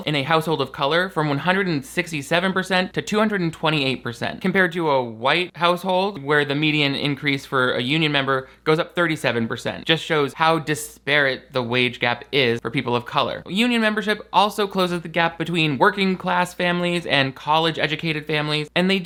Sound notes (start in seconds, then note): none